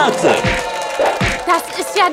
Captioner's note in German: stürmischer Applaus